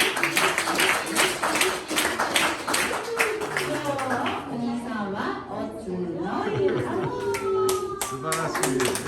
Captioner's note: applause